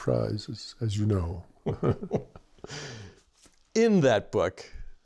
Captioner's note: laughter